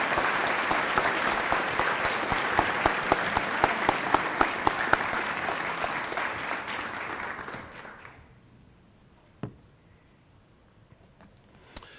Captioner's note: cheering and applause